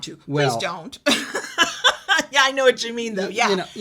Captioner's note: laughs